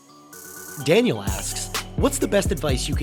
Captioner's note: voiceover